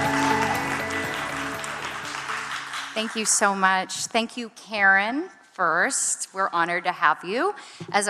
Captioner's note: applause